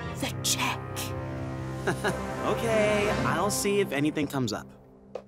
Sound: chuckling

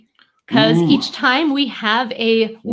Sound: exclaims

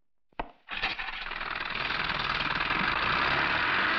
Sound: boat Engine Starting

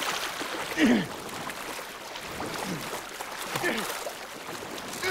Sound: grunting and panting

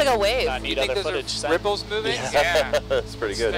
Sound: chuckling

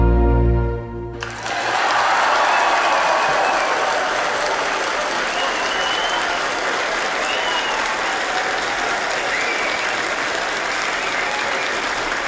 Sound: applause

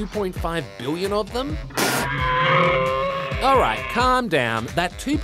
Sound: roars

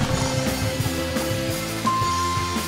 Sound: dinging

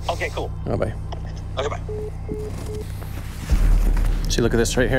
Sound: phone beeps

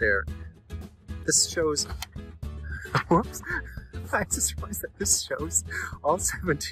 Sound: laughing

